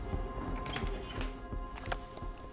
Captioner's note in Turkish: Kapı açılma sesi